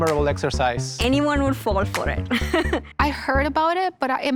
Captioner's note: laughs